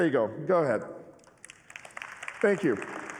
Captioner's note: applause